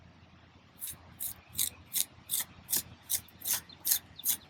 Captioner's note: trowel scraping